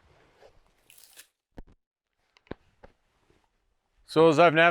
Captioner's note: leaves rustling